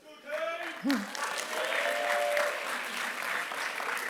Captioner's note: applause